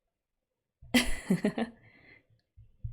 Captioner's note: laughs